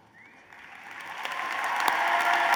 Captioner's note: applause